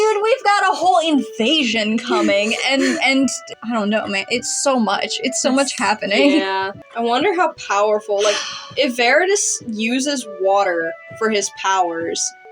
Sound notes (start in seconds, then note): 2.0 chuckle; 8.2 sigh